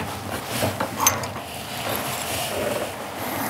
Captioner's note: metallic clicking, creaking